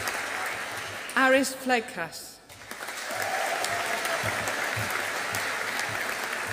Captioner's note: audience applauding